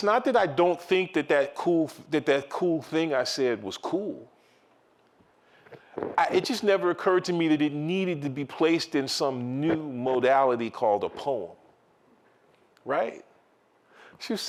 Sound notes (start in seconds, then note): none